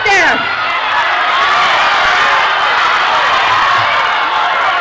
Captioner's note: crowd shouting